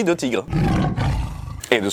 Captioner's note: roar